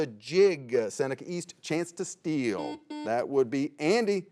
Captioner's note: buzzer beeps